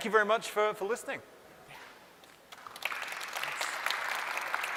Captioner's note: applause